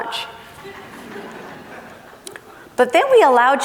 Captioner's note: laughing